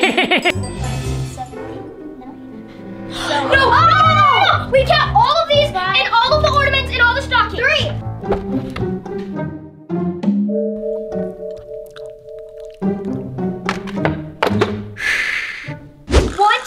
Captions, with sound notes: [Grinch laughing] Five, six, seven, eight, nine. [kids yelling] We count all of these and all of the ornaments, and all the stockings. Three! Shh.